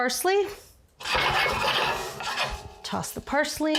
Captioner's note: pan thudding